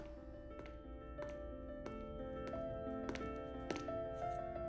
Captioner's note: footsteps padding